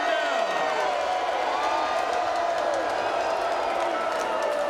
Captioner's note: audience cheering